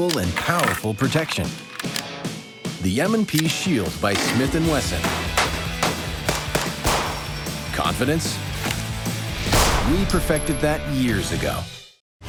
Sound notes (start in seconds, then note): 0.0 voiceover; 6.1 gun shots